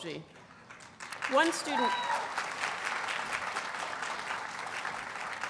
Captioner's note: audience cheers and applauds